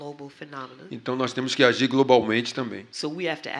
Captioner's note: speaking portuguese